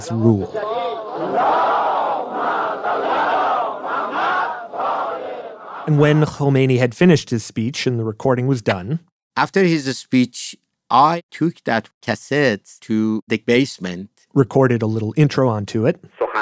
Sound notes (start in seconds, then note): 0.4 crowd yelling